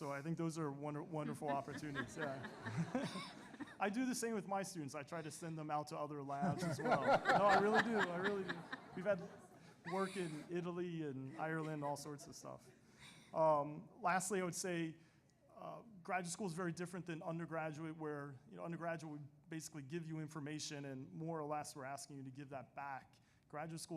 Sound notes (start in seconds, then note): 3.7 laughs; 6.4 panelists laughing